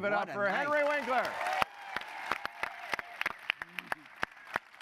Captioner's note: applause